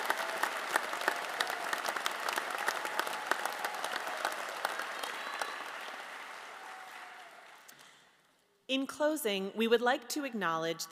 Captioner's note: applause